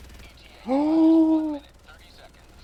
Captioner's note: gasp